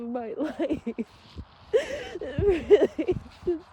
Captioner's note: sobs viscerlly through words